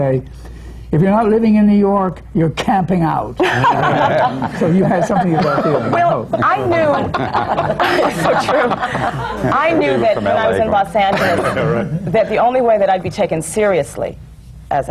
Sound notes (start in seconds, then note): 3.4 laughter